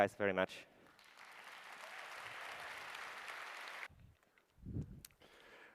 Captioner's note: applause